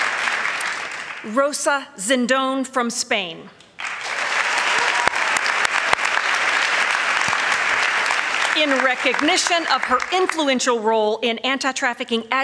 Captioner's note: applause